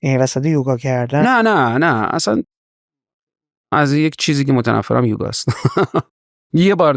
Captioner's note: laughs